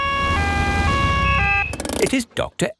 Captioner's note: siren wails